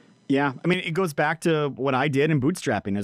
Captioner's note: chuckles